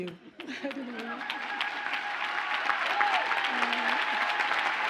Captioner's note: audience cheers and applauds